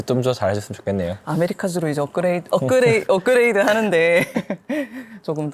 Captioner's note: laughs